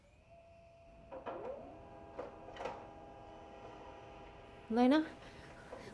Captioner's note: printer whirring